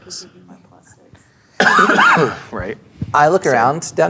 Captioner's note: coughs